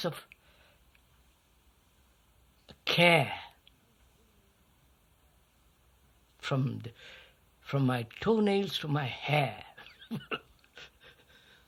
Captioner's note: laughs